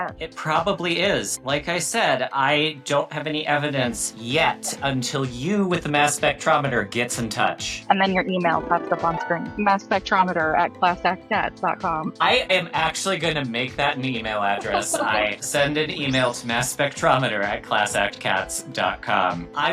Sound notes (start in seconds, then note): 14.4 laughing; 15.8 email whooshing